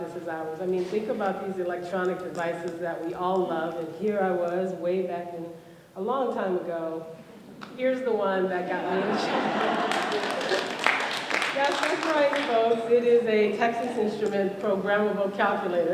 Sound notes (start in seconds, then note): 8.8 laughter and applause